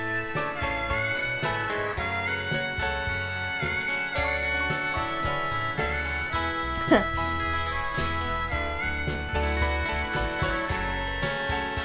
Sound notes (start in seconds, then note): 0.1 tender instrumental music; 6.7 chuckles; 7.9 tender instrumental music